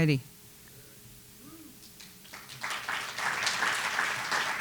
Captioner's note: soft cheers, applause